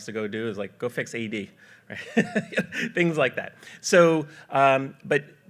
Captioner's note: laughs